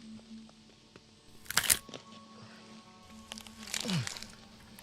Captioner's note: Dave grunting